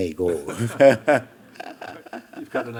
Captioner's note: audience chuckling; Hiroshi chuckling; chuckling